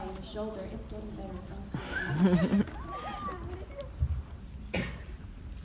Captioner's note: audience laughing